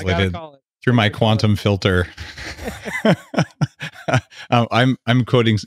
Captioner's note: laughing